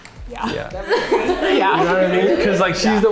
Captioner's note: everyone laughing